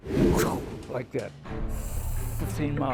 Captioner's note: imitates whoosh